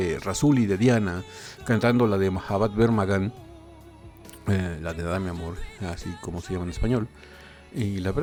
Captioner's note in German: auf Spanisch